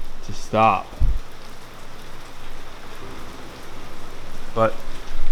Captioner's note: heavy rain falling